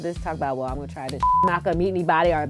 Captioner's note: beep